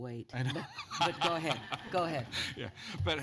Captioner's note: laughter